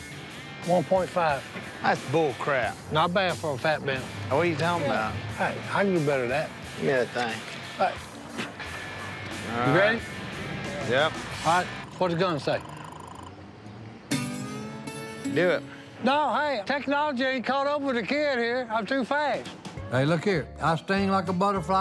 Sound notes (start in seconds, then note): 8.0 spits